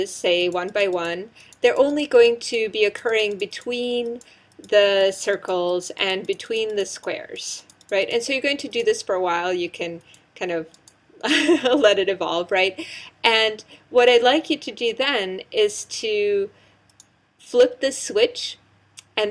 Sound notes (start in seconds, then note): 11.2 laugh